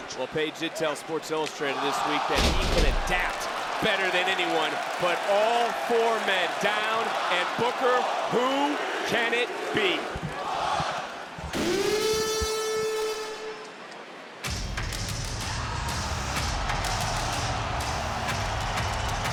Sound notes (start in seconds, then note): 2.3 wrestlers clatter; 11.5 horn blares; 13.9 crowd cheers; 16.0 tribal music plays